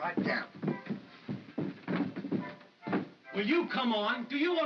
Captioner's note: footsteps up stairs